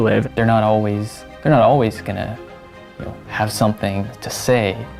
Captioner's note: none